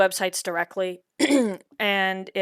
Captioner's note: clears throat